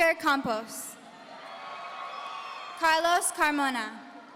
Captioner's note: audience cheering